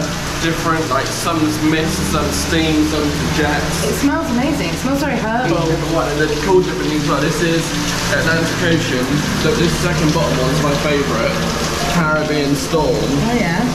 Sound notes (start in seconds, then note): 6.0 water thundering